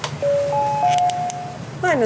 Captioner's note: bell